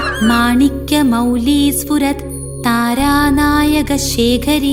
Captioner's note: chanting